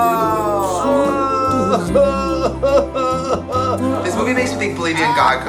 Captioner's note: woman cries